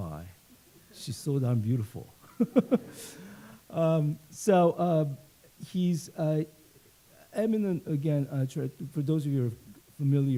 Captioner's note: laughs